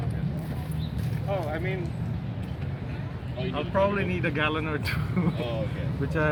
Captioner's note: laughs